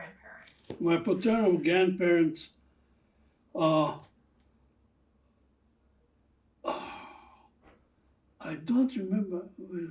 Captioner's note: sighing